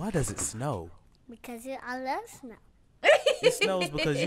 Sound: laughs

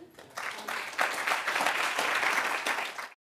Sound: applause

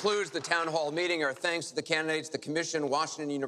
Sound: applause

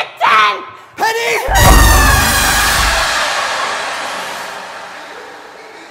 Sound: dramatic screeching; laughing

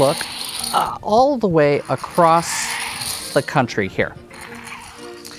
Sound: game pieces sliding

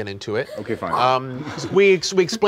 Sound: laughing

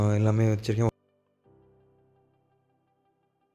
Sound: no audio

